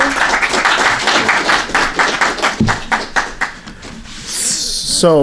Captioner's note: applause